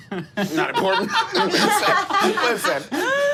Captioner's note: group laughing